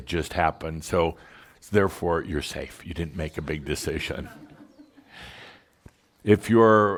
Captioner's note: a few giggles